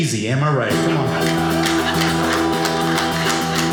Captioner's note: audience applauding